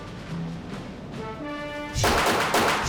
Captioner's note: air whooshes; gun fires